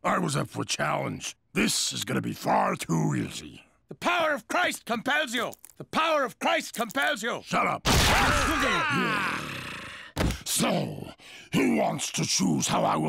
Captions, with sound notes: THIS IS GOING TO BE FAR TOO EASY. - THE POWER OF CHRIST COMPELS YOU! THE POWER OF CHRIST COMPELS YOU! - SHUT UP. [all exclaim] SO WHO WANTS TO CHOOSE HOW I WILL KILL THE REST OF YOU?